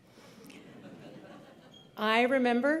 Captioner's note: laughter